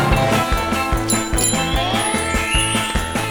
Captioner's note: bike bell ringing